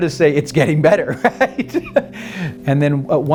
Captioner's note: laughs